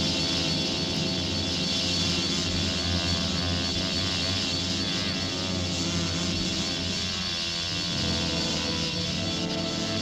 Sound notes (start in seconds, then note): none